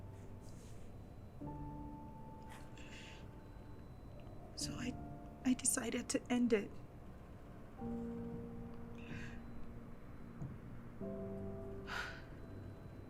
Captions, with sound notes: (gentle music continues) So I, I decided to end it. (Abby sighing)